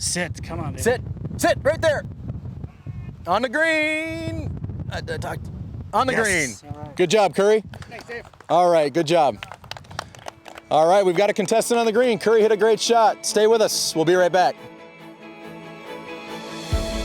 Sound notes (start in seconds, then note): 9.3 audience clapping; 14.4 upbeat music